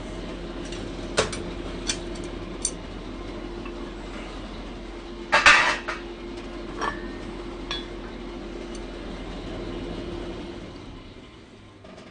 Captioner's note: clattering